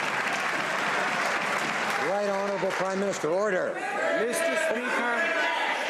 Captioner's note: some Applause